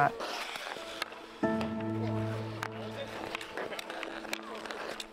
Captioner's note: skates scraping